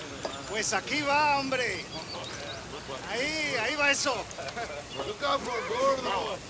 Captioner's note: Crecencio speaks Spanish; gang members chatter